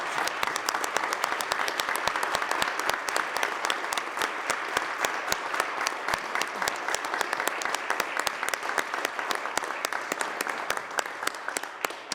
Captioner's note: applause